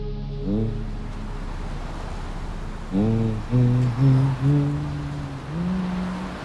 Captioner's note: humming